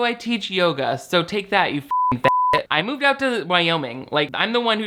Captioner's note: beep